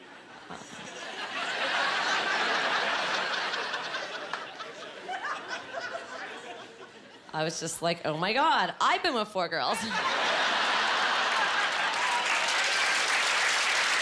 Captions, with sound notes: (Laughing) I was just like, "Oh, my God! I’ve been with four girls." (Cheering)